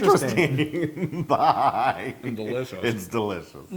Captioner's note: laugh